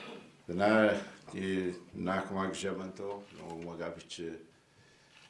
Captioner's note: speaking in foreign language